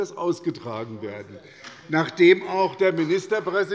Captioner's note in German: Beifall bei Abgeordneten der SPD